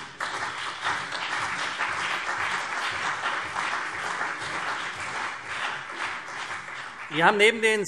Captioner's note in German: Beifall CDU und BÜNDNIS 90/DIE GRÜNEN